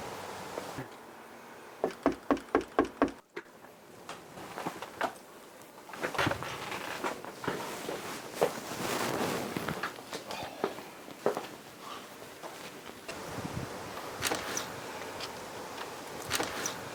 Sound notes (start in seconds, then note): 1.8 knocks on door; 10.6 Richard sighs; 14.0 door opens